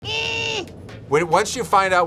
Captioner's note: grunts